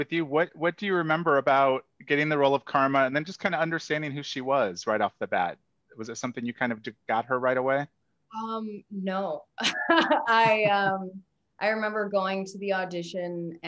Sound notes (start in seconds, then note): 9.6 laughs